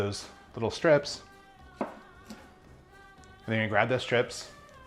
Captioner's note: chopping